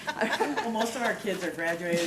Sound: laughing

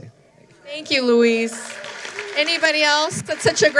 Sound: applause

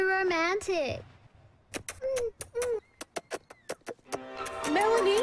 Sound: kissing

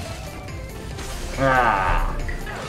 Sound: snarls

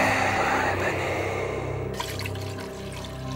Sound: ghostly Voice

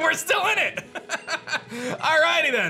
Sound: laughs

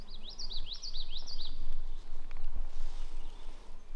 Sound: birds chirping

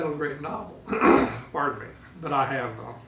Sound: coughing

